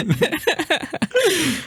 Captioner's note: laugh